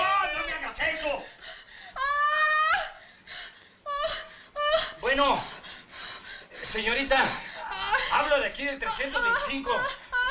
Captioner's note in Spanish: Gritos